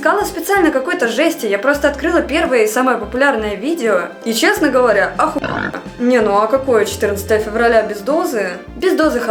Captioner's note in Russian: хрю